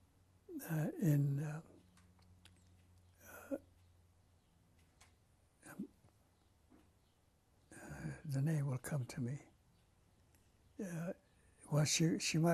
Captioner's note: pauses for 7 seconds